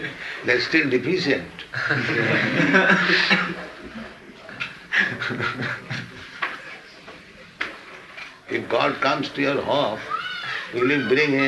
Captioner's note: laughter